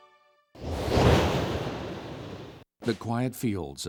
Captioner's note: wind blows